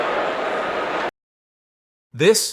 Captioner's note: arena crowd roaring